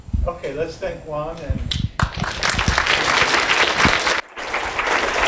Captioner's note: applause